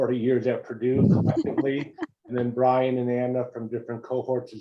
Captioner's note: laugh